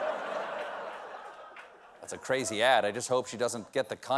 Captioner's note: laughter